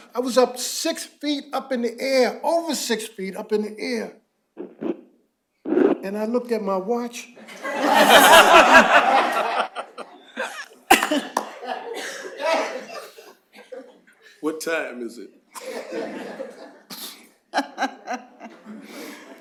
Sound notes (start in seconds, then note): 7.4 laughter